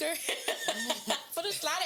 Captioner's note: laughing